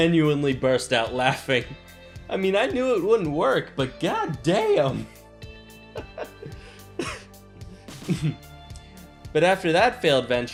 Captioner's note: while laughing